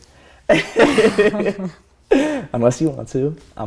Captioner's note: laughter